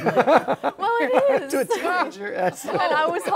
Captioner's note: laughter